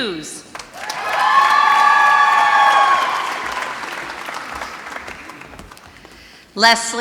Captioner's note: applause